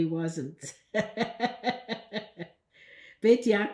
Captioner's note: laughing